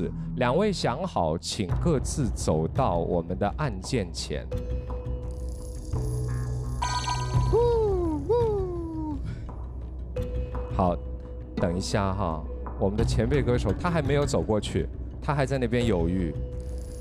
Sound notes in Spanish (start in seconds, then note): 6.7 Dudoso e inseguro